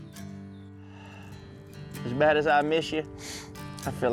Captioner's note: sighs